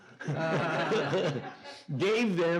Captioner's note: Anthony and audience laughing